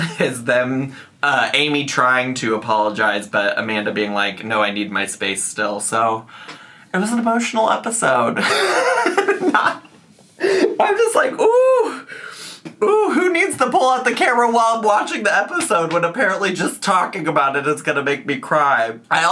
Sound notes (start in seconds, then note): 8.4 laughs